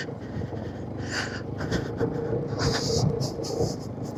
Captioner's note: gasping